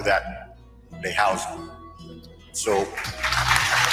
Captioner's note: applause